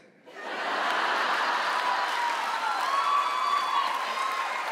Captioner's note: audience laughs, cheers